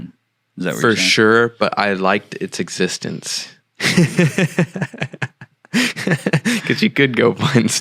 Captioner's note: laughing